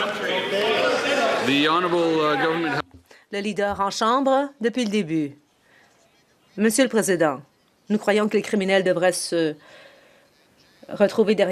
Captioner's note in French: voix de l'interprète